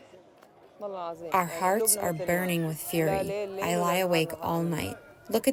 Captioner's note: through translator